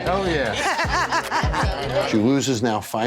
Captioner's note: laughter